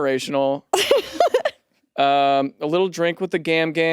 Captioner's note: laughs